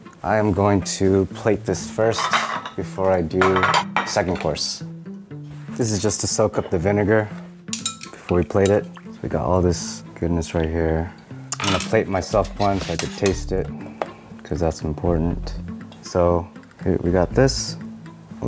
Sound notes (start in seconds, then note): none